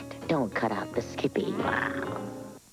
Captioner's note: growl